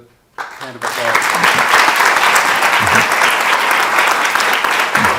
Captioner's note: audience applause